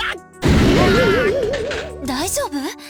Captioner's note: groan